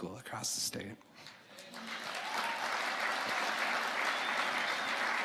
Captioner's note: audience applauding